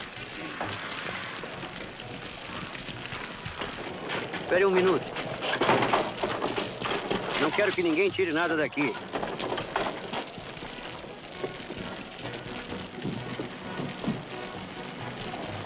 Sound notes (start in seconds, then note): 0.2 fire crackling; 5.0 lock rattling; 12.7 fire crackling